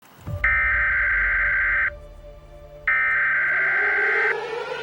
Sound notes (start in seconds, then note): 0.0 EAS warning tones; 4.0 Tornado siren with EAS warning tones in background